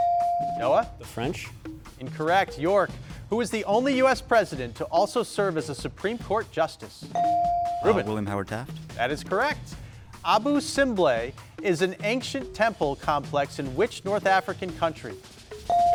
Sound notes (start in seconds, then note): 0.0 bell dings; 7.1 bell dings; 15.7 bell dings